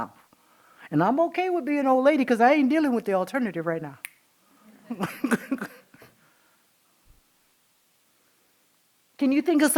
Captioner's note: laughing